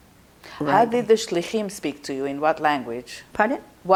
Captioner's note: hebrew